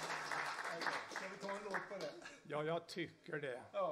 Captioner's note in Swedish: applåder